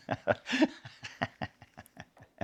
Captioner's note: laughs